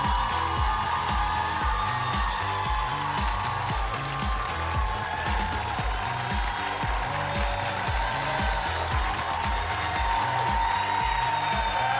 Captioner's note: cheers and applause